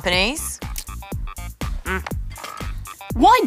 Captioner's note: grunts